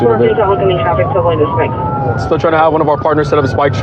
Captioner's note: radio